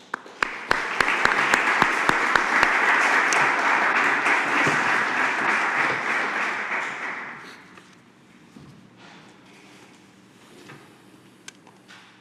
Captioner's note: applause